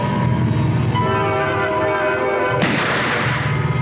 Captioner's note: gunshot